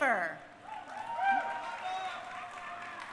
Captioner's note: crowd cheering